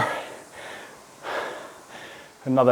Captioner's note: breathing heavily